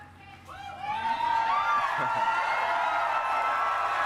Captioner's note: cheering